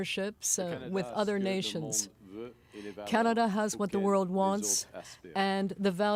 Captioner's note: speaking french